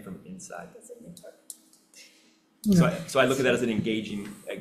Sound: speaking off-mic

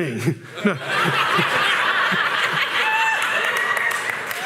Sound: laughter

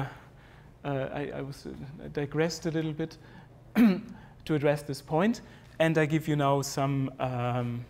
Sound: cough

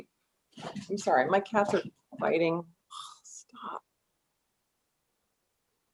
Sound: sighing

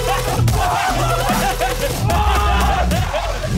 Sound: Sidemen laughing

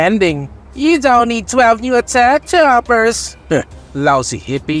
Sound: mocking

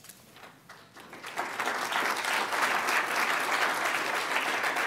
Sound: applause

